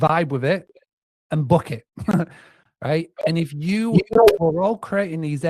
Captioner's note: laughs